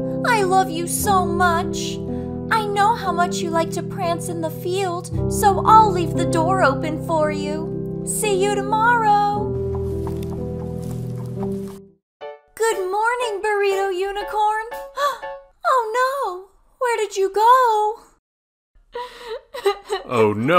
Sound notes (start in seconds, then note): 15.0 Coco gasps; 19.0 sobbing